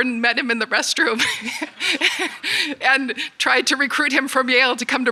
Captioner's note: laughs